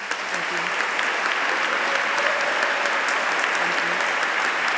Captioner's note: applause